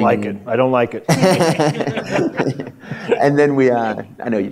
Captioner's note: laughter